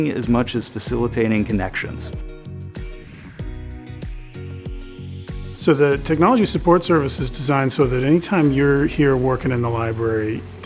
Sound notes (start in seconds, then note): 2.4 air whooshes